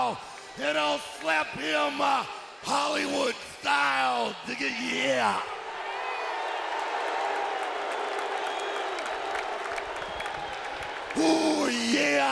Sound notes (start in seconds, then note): 5.5 audience cheering and applauding